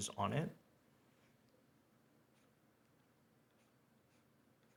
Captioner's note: pen scribbles